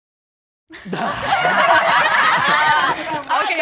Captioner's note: everyone laughing